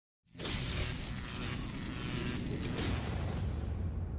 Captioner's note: electricity buzzing